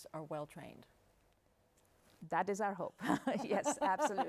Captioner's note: laughing; laughs